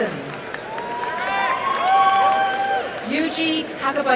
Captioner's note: crowd cheering and applauding